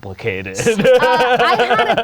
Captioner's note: laughing